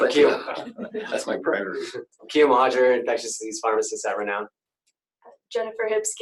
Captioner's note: laughter